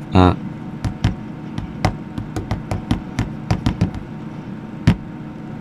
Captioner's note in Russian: тык тык тык тык тык тык тык